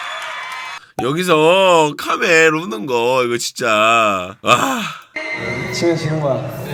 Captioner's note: crying together as is crying here